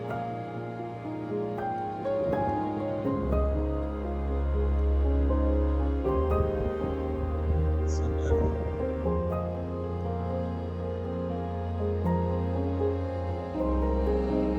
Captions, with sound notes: [wind howling] [speaking German] So beautifull...